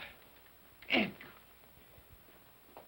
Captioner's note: Cratchit grunts